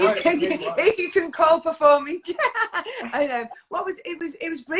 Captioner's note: laughs